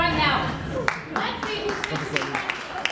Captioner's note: audience applauding